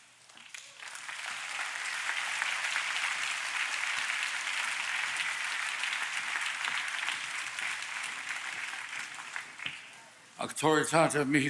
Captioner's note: applause